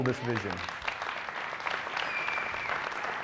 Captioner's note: applause